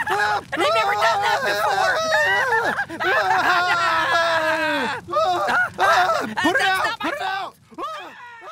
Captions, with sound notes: I've never done that before! [continued screaming] That's not my fault! Look out!